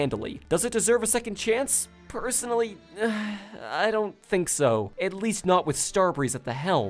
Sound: sighs

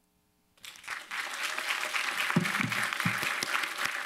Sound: applause

